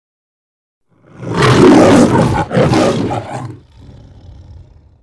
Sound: lion roaring

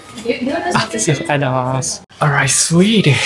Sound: staff & speak japanese

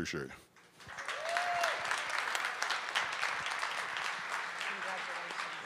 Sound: cheers and clapping

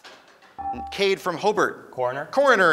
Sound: ding

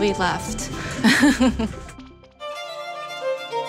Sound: laughs

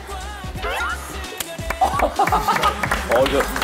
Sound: applause

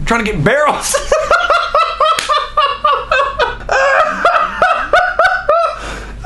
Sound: laughs

